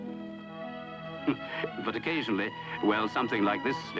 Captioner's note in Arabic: يضحك